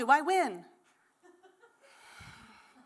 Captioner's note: laughter